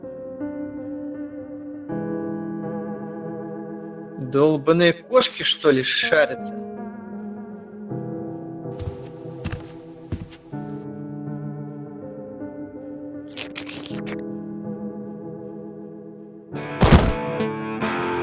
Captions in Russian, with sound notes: – Долбанные кошки, что ли, шарятся? (шаги по коридору) (хлюпанье) (грохот)